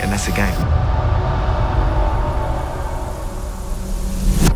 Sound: waves crashing

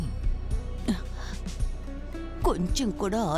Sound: sighs

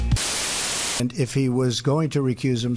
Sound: Static

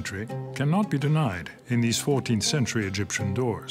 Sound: speaks French

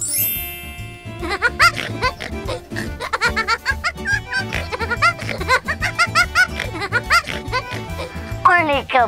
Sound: elf laughs hysterically

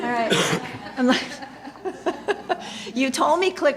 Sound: laughter

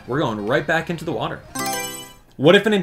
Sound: Mario Selection Sound

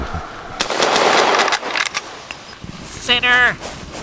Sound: gun fire banging

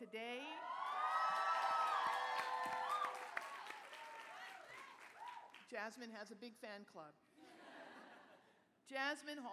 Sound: cheering

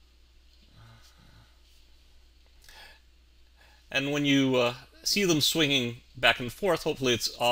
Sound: silence

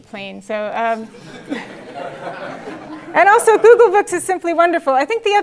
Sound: laugh

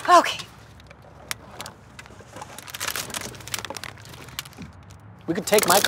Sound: rummaging continues

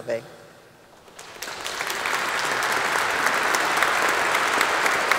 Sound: audience applauding

